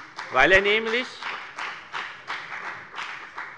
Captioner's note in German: Beifall bei der FDP